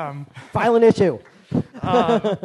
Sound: laughs

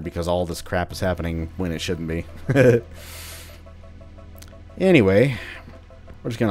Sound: chuckles

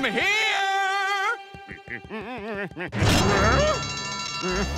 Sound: humming; alarm sounding

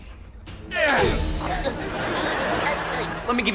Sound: groaning; grunting

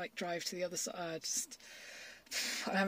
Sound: exhales loudly

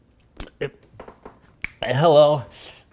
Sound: snap!

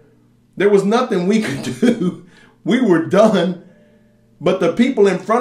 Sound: laughs

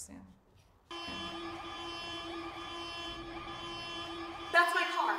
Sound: car alarm ringing

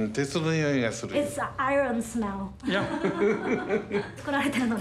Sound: laughs

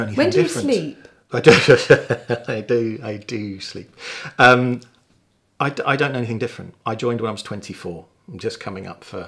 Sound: laughing

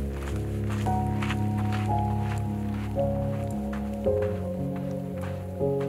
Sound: footsteps crunching

